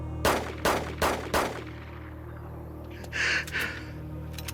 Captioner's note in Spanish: Disparos